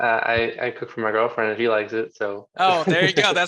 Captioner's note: chuckles